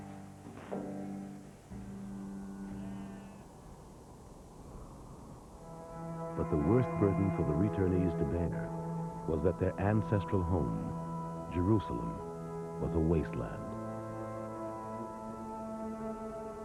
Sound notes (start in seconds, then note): 1.8 mule Braying; 2.4 wind Whistling